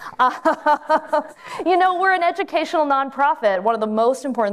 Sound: laughs

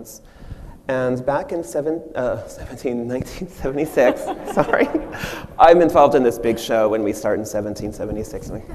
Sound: machine and audience laugh

